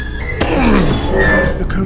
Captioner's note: transitional music; heavy door opening, snapping of vines. Nighttime sounds